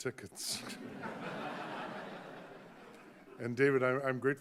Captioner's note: audience laughing